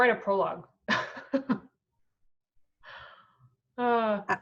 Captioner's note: laughing